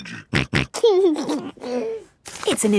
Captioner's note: snorting and giggling